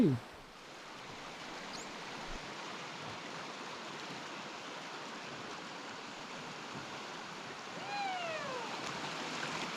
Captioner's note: water rushing